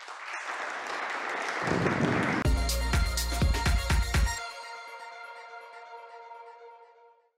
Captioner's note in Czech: Potlesk